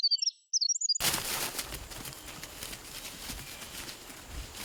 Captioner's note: leaves rustling